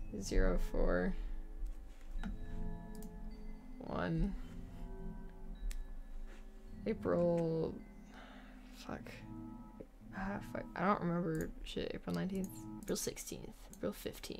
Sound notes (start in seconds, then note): none